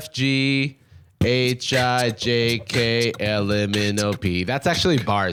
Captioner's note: beatboxing